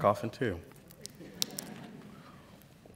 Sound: laughter

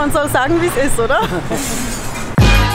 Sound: laughter

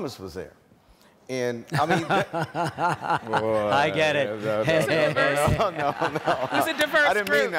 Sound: laughing

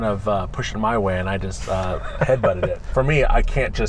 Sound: laughs

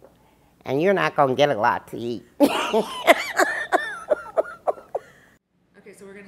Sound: laughter

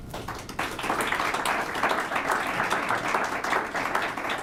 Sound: applause

